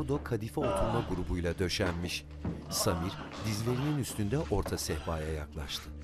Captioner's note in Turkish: İnleme sesi